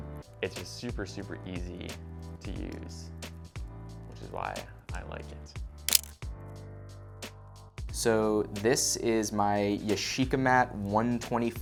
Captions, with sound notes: It's a super, super easy to use, which is why I like it. (camera shutter clicks) - So, this is my Yashica Mat 124G.